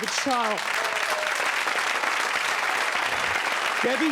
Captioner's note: audience applauding